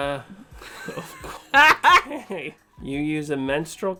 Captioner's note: both laughing